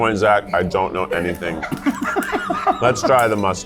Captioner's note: laugher